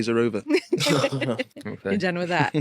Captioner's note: group laughing